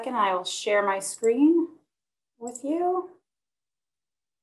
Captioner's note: clicking